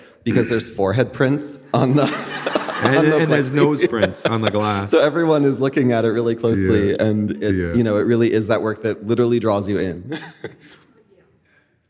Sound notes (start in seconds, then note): 1.8 audience laughing